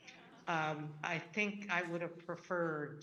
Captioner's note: audience laughing